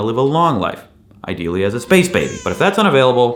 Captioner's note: baby cries